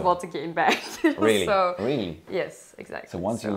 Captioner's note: laughing